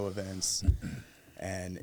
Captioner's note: nods and chuckles